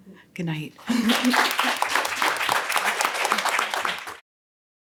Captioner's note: all applaud loudly